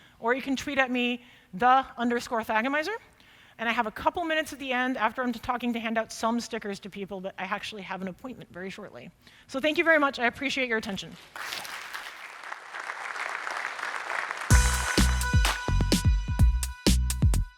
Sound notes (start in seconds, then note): 11.3 applause